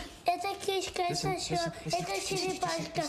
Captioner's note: speaking in a foreign language